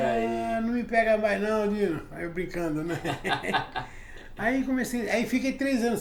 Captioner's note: laughs